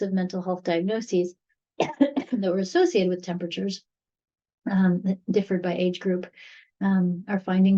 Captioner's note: coughs